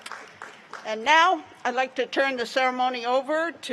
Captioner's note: applause